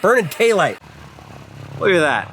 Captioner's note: airplane engine humming